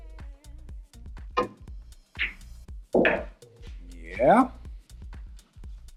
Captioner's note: billiard balls clanging